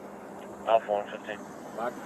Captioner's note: radio chatter